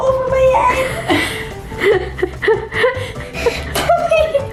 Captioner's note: both laughing